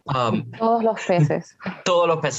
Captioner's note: Spanish language